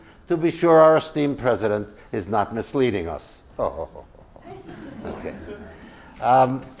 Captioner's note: laugh